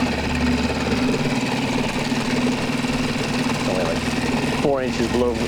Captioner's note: boat motor rumbling